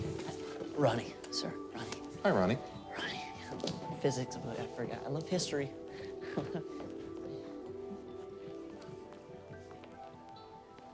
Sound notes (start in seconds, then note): 6.2 laughs nervously